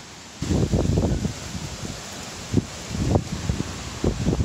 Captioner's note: wind blowing